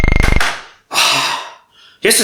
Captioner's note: sigh